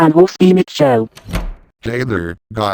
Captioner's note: door opens